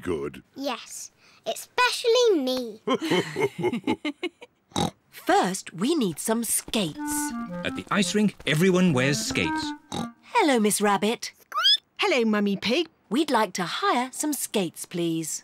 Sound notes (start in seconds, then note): 2.8 laughs; 2.8 laughs and snorts; 9.6 snorts; 11.2 squeaks